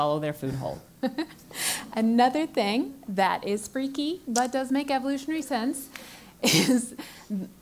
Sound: laugh

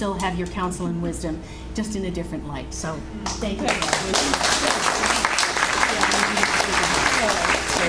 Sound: audience Applauds

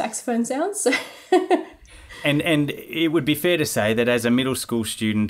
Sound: laughing

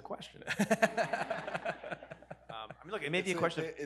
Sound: audience laughs

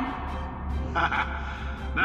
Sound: laugh

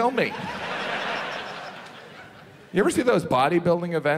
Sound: audience laughs

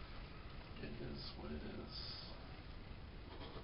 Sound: whispers

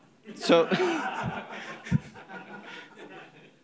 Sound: laughter

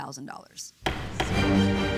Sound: gavel pounds

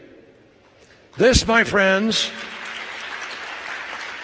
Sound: applause

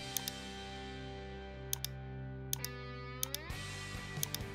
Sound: mouse clicking; gentle upbeat music

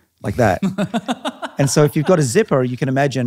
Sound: laughing

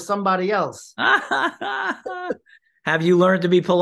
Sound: laughter

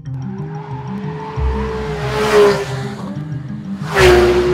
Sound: gt3 engine

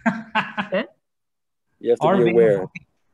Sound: laughing

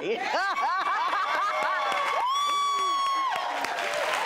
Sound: laughing and cheering

